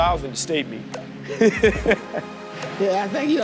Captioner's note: laughs